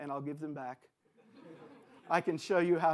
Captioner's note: audience laughs